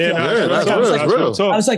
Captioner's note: chattering